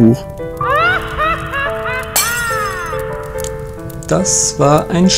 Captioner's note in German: Bösartiges Gelächter